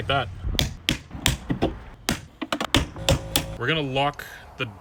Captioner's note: plastic clicking